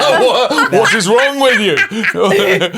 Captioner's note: all laughing